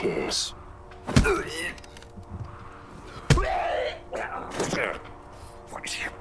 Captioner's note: fleshy thudding